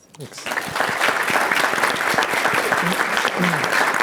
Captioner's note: applause